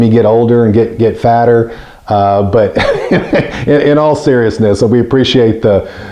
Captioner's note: laughs